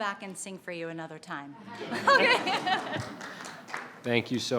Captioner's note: laughs